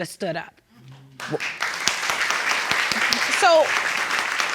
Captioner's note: audience clapping